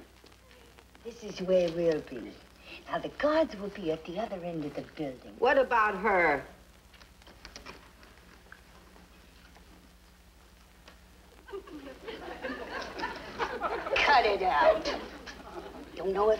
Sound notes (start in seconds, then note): 11.4 audience chuckles